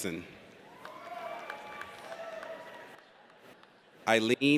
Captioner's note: audience cheers